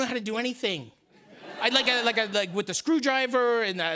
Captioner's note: laughter